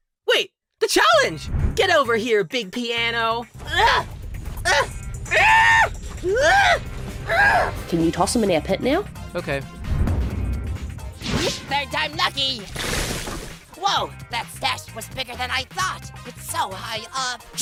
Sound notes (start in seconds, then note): 3.6 grunts